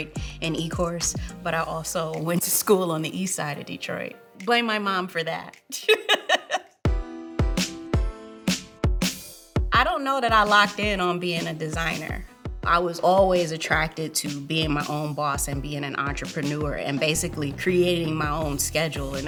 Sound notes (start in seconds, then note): 5.7 laughing; 6.9 hip hop music